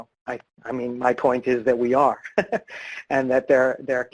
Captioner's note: laughs